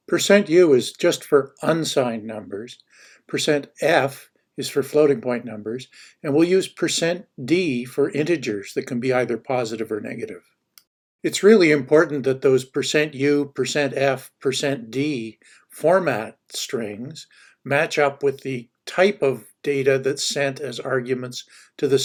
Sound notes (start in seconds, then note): 10.7 clicks